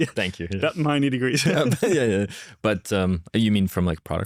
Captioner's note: laughs